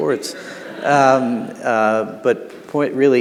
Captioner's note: audience laughing